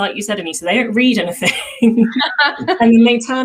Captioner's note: giggles